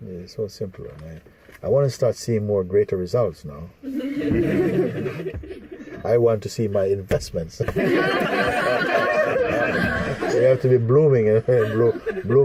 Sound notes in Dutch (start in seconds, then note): 3.8 gelach; 7.6 gelach